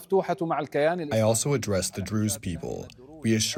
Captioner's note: through translator